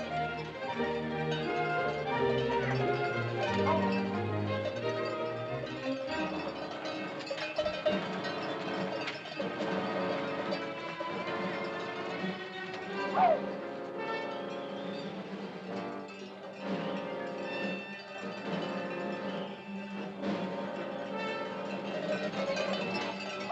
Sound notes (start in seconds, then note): 0.0 whimsical music; 0.1 cow bells ringing; 6.0 ominous music; 13.2 Mowgli whoops; 13.8 cow bells ringing